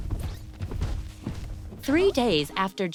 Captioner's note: footsteps